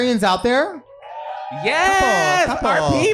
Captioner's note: audience cheering